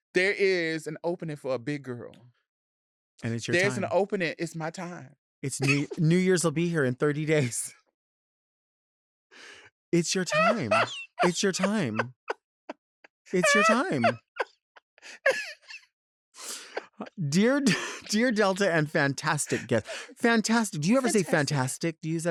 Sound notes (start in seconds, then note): 5.6 laughing; 10.2 laughing